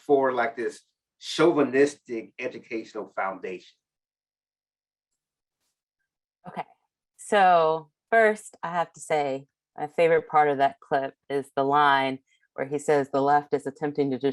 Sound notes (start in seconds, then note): none